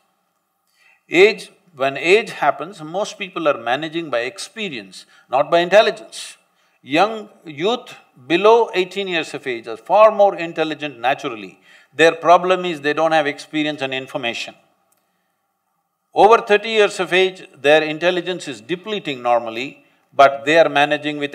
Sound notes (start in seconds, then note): none